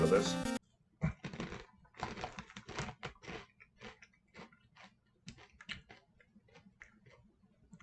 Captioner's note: the last musicless chewing